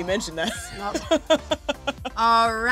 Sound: laughs

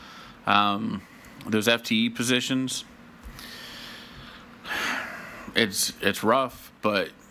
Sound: sighs

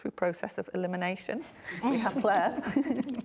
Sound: both laughing

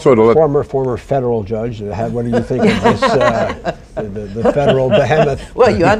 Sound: laughter

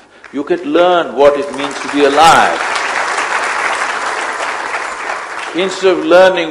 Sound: applause

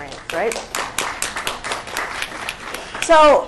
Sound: applause

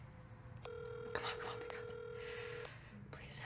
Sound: phone ringing

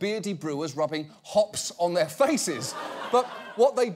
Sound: audience laughing

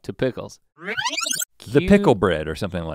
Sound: tape rewinds

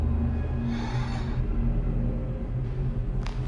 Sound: sighs with relief

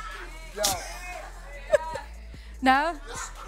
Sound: laughs

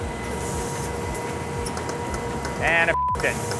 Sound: machine whirring

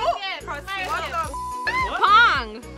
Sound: beep

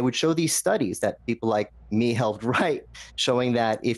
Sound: laughs

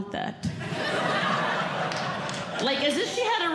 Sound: audience Laughing

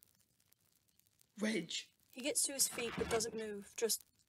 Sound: bed creaking

